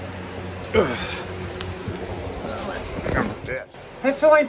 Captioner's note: Ava grumbles as she gets up